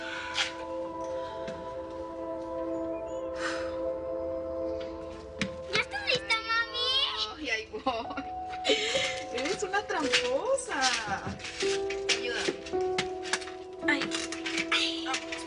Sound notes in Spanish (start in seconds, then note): 7.8 Riendo